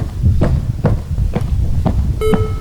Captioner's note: footsteps